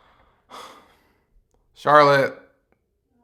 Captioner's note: sigh